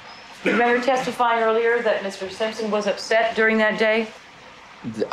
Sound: background cough

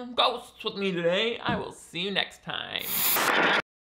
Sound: scene swooshing

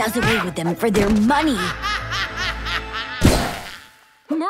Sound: laughing

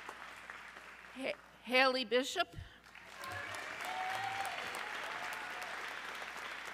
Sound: audience cheering

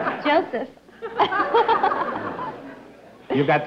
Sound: laughs

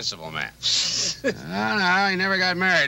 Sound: Homer snickering

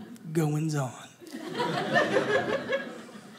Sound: audience laughing

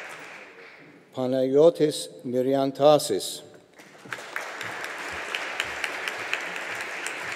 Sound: audience applauding

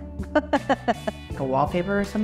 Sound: laughs

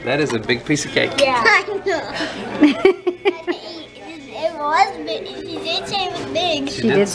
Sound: laugh

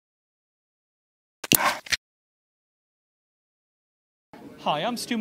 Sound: click and snap

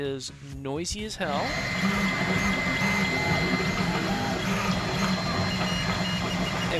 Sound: SFX: mechanical screeching noises

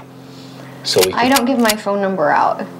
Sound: gun clicking

